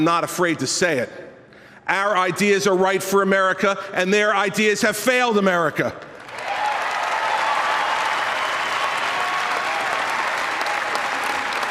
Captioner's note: applause